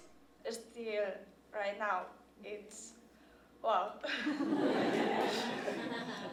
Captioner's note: laughter